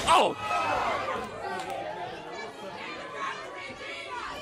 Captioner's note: crowd chatter